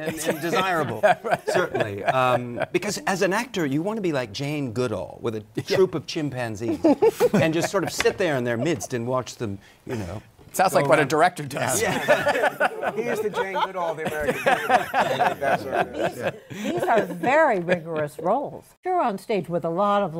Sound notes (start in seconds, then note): 11.8 laughter; 14.6 laughter